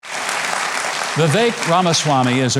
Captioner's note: audience clapping